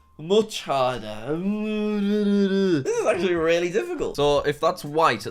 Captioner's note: groaning